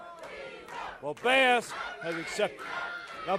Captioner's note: crowd cheering